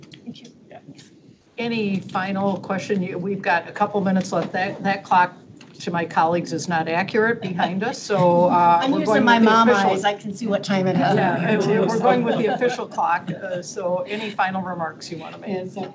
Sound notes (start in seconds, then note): 10.9 people chuckle